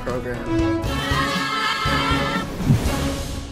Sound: kids screaming

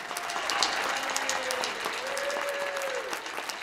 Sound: applause

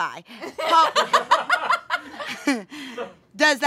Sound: audience laughing

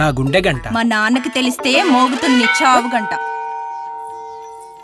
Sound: temple bell rings

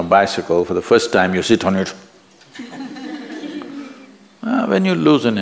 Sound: laughter

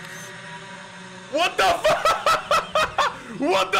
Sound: laughing

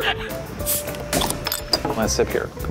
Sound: laughs; pops; clinks

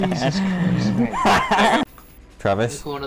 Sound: antagonist laughs

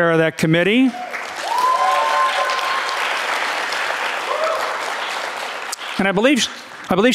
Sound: audience cheering and clapping

